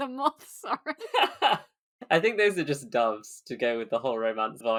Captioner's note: laughs